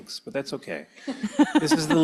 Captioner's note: laughs